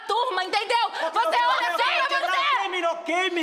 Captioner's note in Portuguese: gritaria